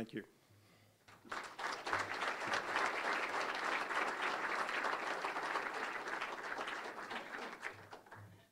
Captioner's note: applause